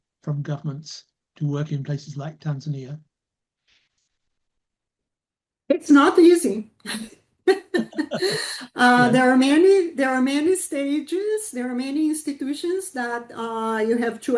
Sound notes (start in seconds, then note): 7.4 laughter